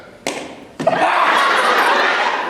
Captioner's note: loud thud